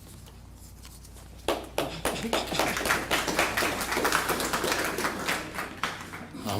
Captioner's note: applause